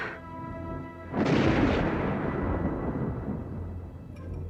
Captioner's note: guntur menggelegar; berderak lembut